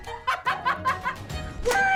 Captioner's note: more maniacal laughter